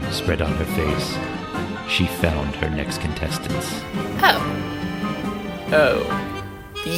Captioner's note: evil tone, dripping with venom